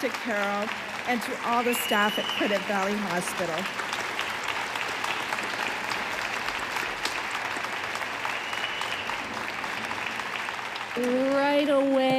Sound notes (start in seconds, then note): 5.4 audience applauding